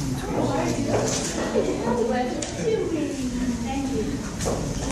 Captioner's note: audience chatter